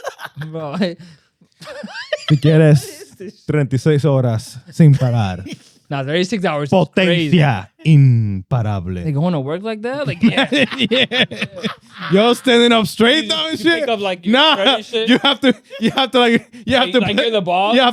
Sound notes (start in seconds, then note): 1.5 laughing; 4.5 speaking In Foreign Language; 7.3 speaking In Foreign Language; 10.9 laughing